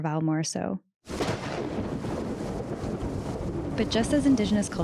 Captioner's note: storm breaking